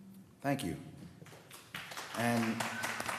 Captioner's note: applause